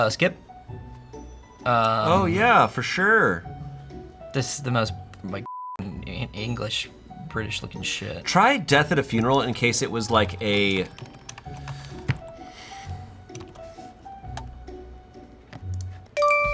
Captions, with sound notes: - Skip. - Oh yeah, for sure. - This is the most like (beep) English/British looking shit. - Try "Death at a Funeral" in case it was like a...